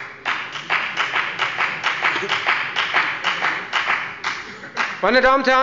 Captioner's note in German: Beifall bei der FDP